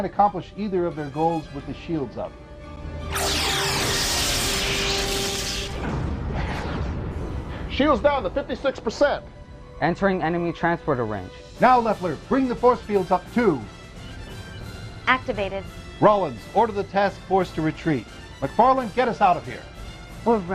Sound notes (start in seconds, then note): 3.1 explosion